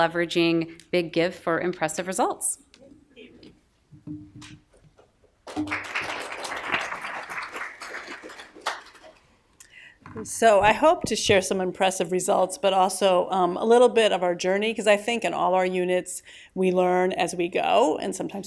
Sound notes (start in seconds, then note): 5.4 applause